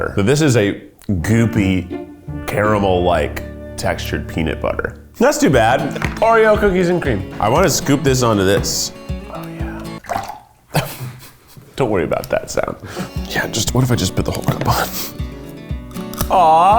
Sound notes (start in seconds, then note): 9.4 water sloshing